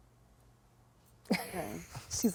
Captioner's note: laughing